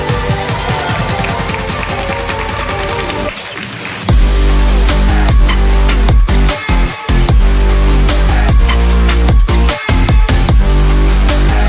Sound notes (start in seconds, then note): 0.0 audience cheering and clapping